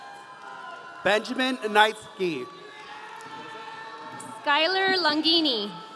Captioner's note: audience cheering